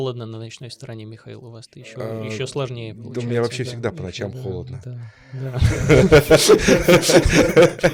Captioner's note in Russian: смех